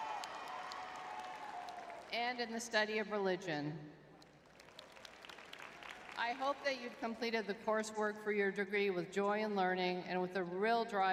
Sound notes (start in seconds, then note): 0.0 audience cheering; 4.2 audience clapping